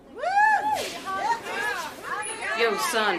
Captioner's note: inmates cheering